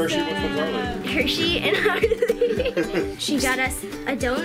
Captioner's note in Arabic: ضاحكا